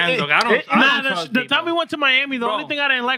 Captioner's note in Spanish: Hablando en idioma extranjero